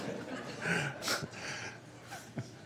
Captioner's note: laughter